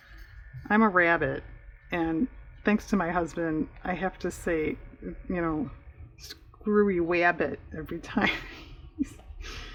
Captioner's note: laughs